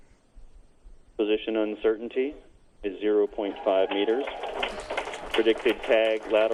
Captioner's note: applauding